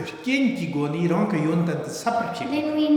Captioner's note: speaking tibetan